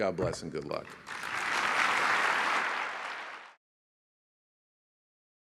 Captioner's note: applause